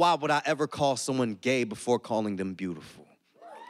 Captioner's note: audience cheers and applauds